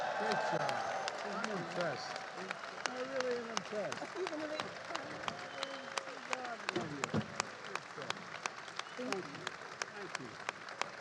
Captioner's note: applause